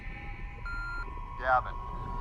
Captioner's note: beeping; voiceover